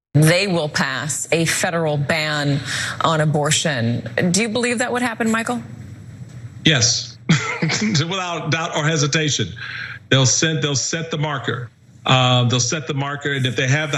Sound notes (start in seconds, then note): 7.3 laugh